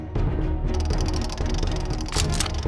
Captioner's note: wheel spinning; cocks rifle